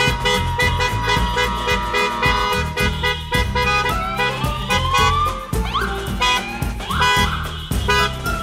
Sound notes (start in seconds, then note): 2.9 car horns honk